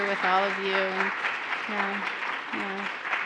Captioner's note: applauding